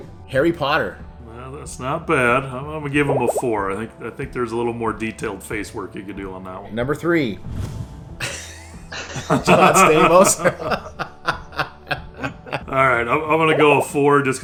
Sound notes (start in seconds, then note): 8.2 laughs; 10.2 laughing